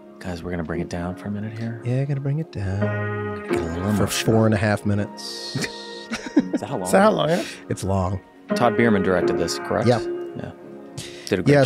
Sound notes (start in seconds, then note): 5.4 Glenn and Charlie laughs